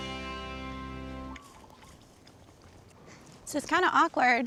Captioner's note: birds chirping